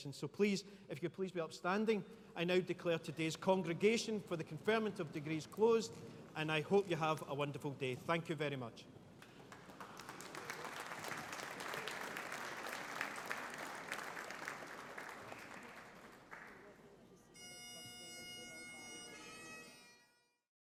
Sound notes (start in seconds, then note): 9.2 audience applauding; 17.3 bagpipes playing